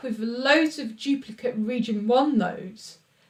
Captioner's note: none